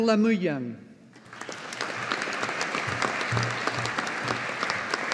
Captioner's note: audience applauding